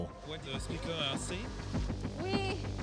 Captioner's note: speaking foreign language